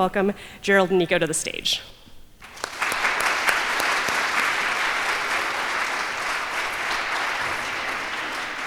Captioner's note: applause